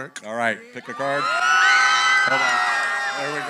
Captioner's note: cheering